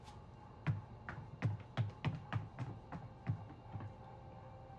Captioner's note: footsteps padding; gentle music